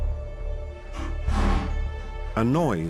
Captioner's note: metallic rattling